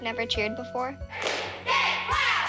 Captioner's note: all chanting